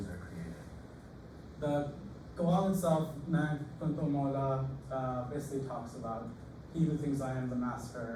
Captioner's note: non-english